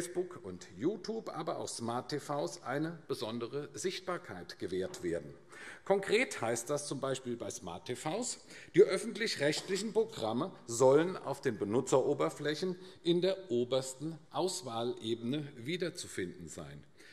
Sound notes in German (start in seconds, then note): none